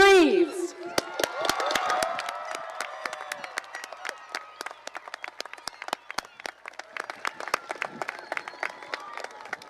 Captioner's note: cheering and applause